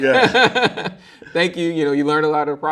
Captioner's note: laughing